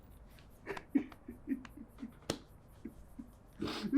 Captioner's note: mike sobbing